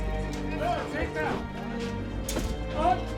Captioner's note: man speaking in foreign language